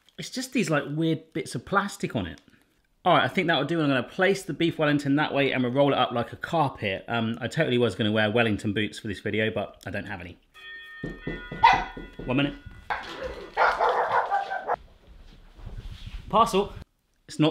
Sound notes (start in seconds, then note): 10.5 doorbell rings; 12.9 dog barks